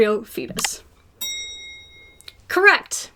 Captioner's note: bell dings